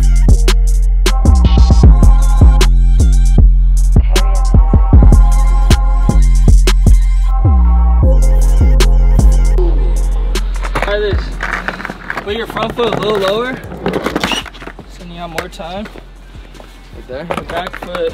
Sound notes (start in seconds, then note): 4.5 automated Voice